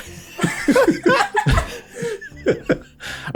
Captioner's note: laughing becasue shovel